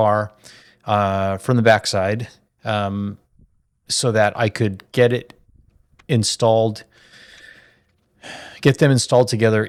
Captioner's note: sighs and gasps